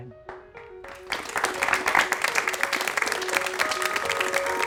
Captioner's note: audience clapping